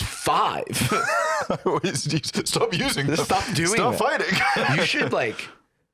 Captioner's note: laughs